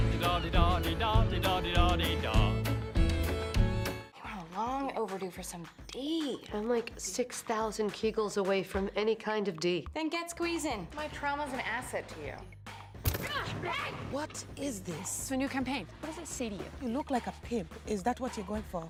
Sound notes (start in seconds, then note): 13.6 thump